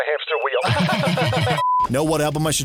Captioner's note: super not sus laugh